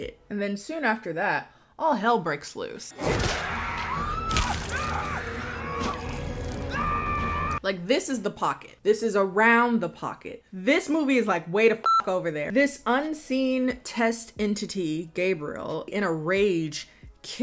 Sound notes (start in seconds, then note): 3.0 people scream; 11.8 beep